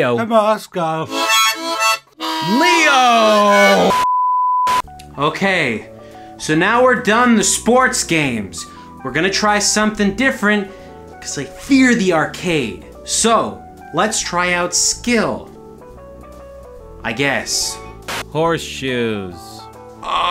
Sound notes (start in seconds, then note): 1.1 harp; 4.0 static